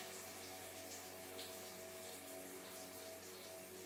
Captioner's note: water trickles